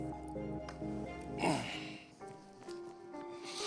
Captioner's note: grunts; sniffles